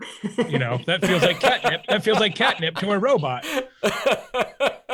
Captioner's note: laughing